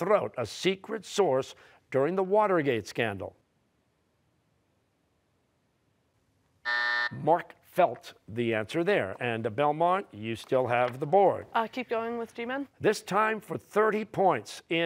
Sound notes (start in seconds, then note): 6.6 buzzer